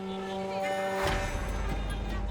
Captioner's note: horns honking